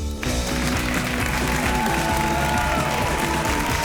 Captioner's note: crowd applauding